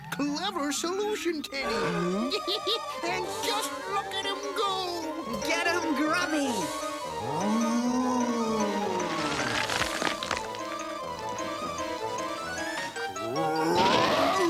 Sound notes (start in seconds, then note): 2.0 Gimmick chuckles; 5.6 Grubby growls; 13.2 Grubby growling